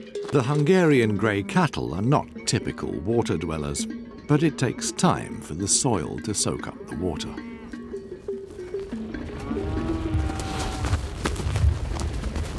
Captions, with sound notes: The Hungarian gray cattle are not typical water-dwellers but it takes time for the soil to soak up the water. [cattle mooing]